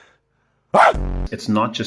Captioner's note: barks